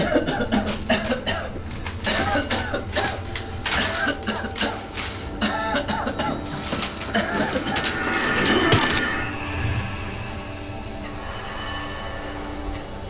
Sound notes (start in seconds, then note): 0.1 coughing; 7.7 blade slicing